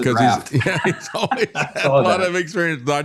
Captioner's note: laughing